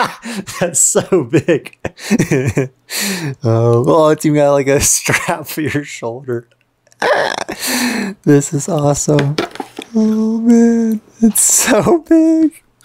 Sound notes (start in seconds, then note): 0.0 speaker laughing